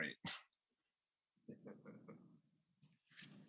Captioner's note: chuckles